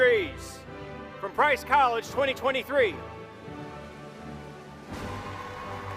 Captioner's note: applause